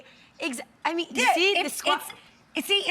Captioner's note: stammers